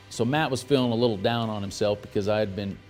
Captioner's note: none